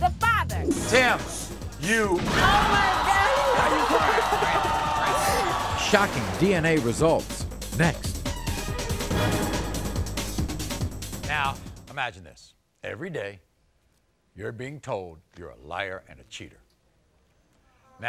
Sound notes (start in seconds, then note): 3.0 crying; 8.3 dramatic music